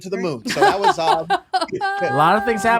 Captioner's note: laughter